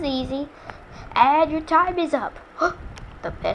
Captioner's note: gasp